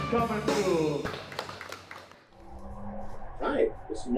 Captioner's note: crowd applauds